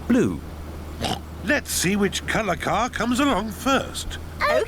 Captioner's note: oinks